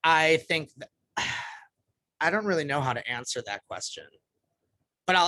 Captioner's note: sigh